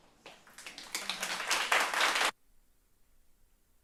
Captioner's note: applause